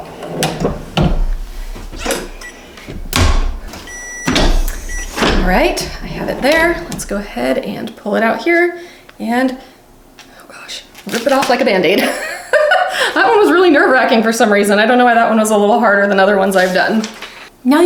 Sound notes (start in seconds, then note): 12.0 chuckles